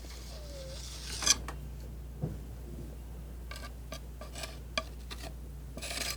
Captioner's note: scratching